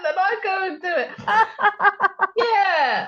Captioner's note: laughter